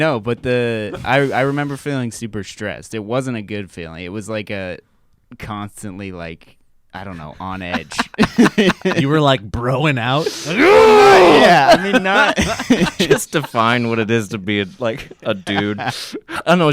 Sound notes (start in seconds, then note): 7.5 laughing; 10.2 laughing; 10.8 grunts